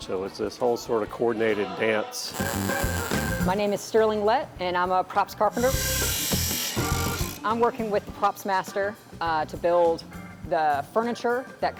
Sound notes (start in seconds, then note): 2.3 electricity buzzing; 5.5 machine whirring; 5.7 lively music